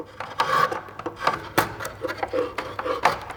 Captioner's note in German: Schabende Geräusche